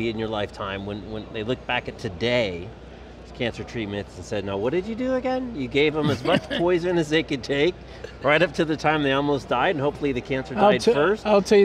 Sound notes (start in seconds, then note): 6.0 laughs